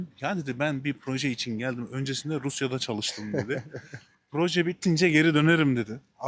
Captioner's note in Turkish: kahkaha